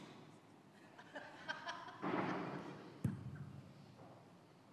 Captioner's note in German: vereinzelte Lacher